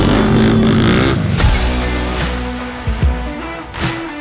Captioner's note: dramatic music; mechanical clicking